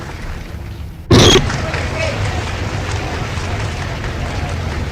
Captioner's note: crowd talking and applauding